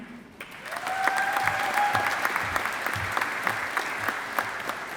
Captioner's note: audience applauding